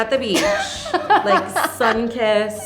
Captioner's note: laughing